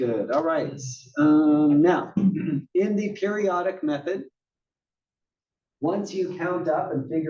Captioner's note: cough